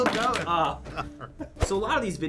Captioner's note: chuckles